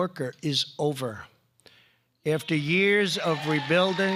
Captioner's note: applause